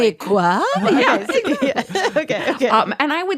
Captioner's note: laughs